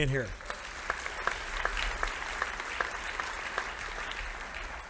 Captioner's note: audience applauding